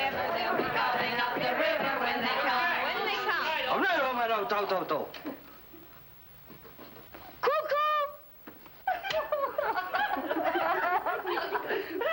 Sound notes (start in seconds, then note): 3.7 speaking foreign language; 8.8 giggling